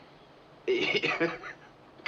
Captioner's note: chuckling